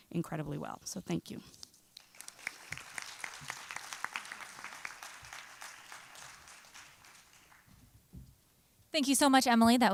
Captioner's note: applause